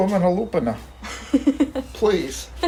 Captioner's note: laughs